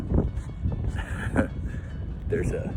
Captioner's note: laughs